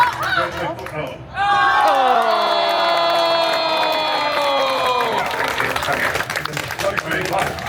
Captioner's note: guests cheering and applauding; guests gasping loudly